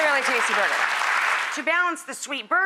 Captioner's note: applauding